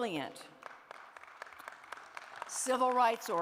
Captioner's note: applause